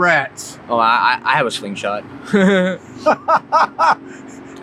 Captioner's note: chuckles; interviewer laughs